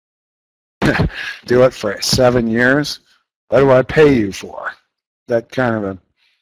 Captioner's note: laughs